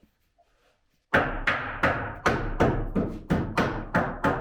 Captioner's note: hammer banging